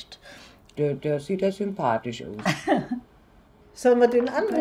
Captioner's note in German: lacht